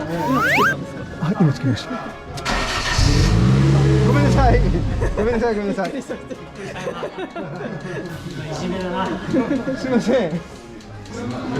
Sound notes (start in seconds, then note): 2.4 starts the engine